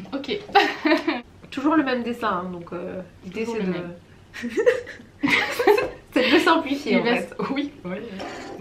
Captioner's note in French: rires